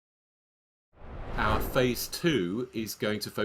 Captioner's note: screen swooshing